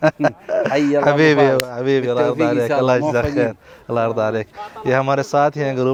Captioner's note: Arabic